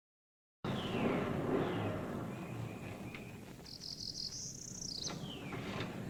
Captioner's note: car engine - birds singing